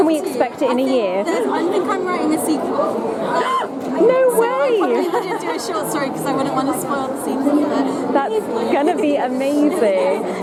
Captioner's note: an actual gasp